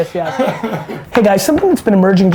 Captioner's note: laughs